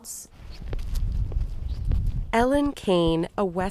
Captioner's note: footsteps thudding